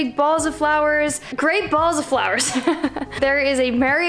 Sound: laughs

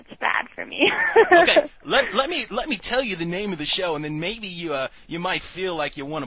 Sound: laughing

